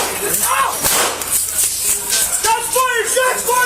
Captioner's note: fires more gun shots; gunshot fired